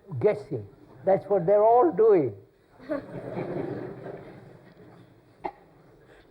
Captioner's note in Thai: หัวเราะ